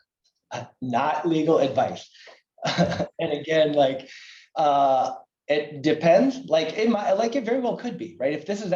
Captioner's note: laughter